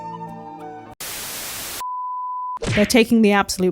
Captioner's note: static